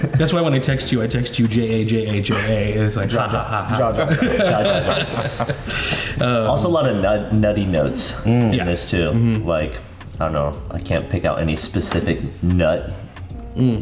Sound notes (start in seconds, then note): 4.2 all laughing; 4.2 group chattering